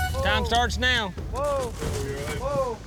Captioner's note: horn blows